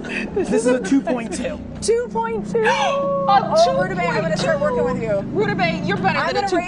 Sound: laughter

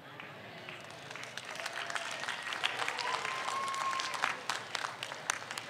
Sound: audience applauds

